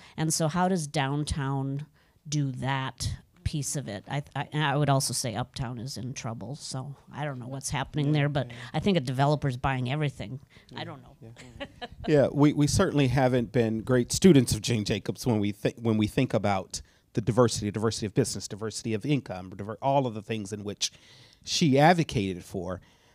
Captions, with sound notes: And so, how does downtown do that piece of it? And I would also say, Uptown is in trouble. I don't know what's happening there, but I think a developer's buying everything. I don't know. (audience member chuckles) - We certainly haven't been great students of Jane Jacobs when we think about the diversity of business, diversity of income, all of the things which she advocated for.